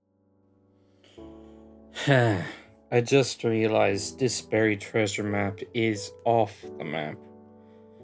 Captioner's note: sigh